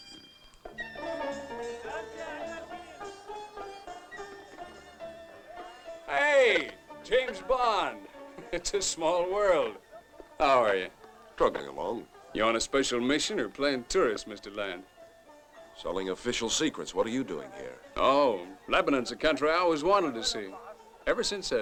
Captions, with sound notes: [LIVELY MUSIC] [CHATTER] Hey, James Bond. It's a small world. How are you? Traveling along. You're on a special mission or playing tourist, Mr. Land? Selling official secrets. What are you doing here? Oh, Lebanon is a country I always wanted to see ever since